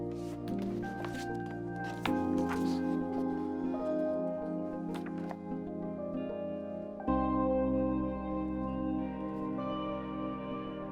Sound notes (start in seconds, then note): 0.0 book rustling; 6.8 expressive electronic music